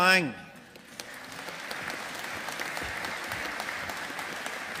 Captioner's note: audience applauding